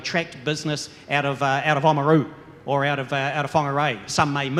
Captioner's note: mutters